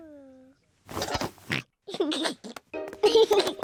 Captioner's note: oinks and giggles